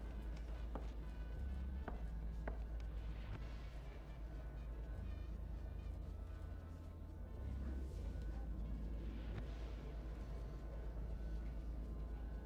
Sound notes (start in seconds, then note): none